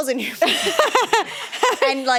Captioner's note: laughs